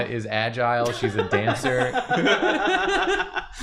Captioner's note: laughter